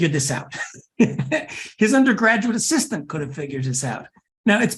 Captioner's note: laugh